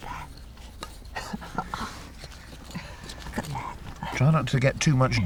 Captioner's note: laughs; laughs